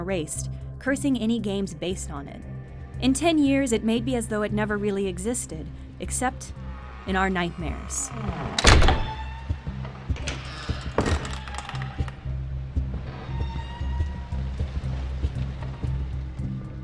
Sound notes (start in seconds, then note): 8.0 sound of a door closing